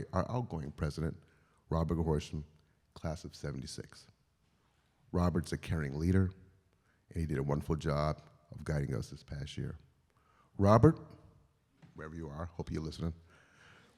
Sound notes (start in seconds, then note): none